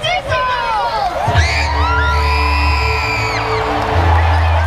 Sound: excited scream; triumphant music

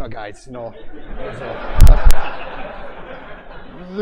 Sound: laughter

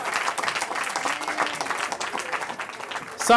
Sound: cheering

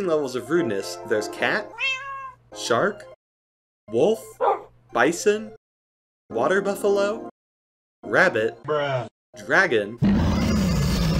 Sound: meow; bark; bruh sound effect

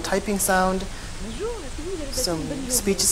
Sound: french woman speaking

